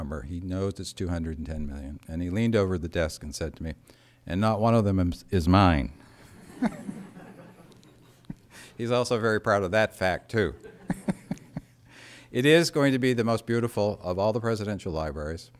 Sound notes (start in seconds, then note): 10.5 laughter; 10.6 laughs